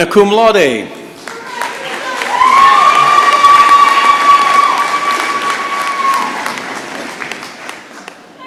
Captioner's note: applause and cheering